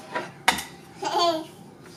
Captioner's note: toddler giggles